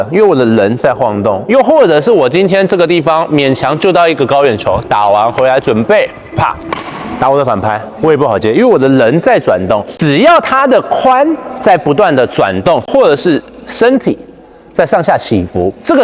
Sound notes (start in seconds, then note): 6.7 bam